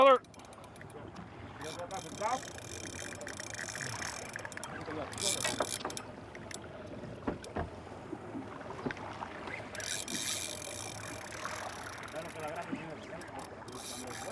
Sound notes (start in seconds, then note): 0.0 reel cranking; 5.3 waves lapping; 7.0 reel cranking; 13.6 background chatter